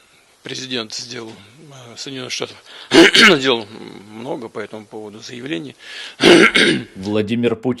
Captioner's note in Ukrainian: кашляє